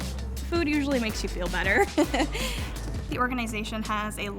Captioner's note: chuckles softly